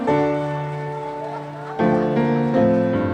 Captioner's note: audience shouting; delighted laughing